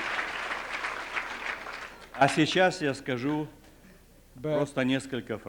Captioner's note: non-english speech